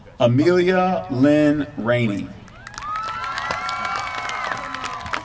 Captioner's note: applause